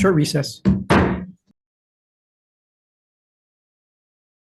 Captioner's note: gavel bangs